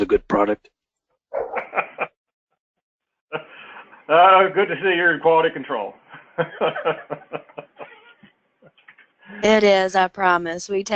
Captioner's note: laugh